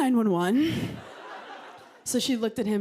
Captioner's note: laughter